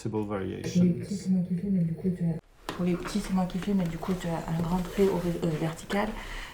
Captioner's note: speaking in foreign language